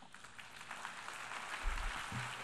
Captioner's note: applause